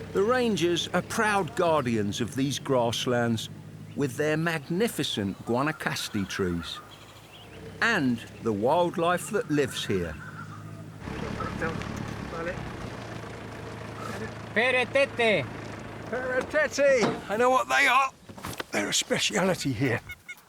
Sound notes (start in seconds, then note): 11.7 truck rumbles; 14.9 driver speaks foreign language